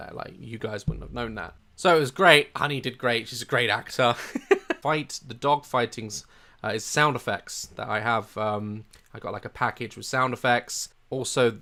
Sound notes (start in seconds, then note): 4.1 chuckles warmly